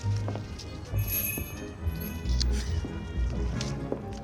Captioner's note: door bell jingles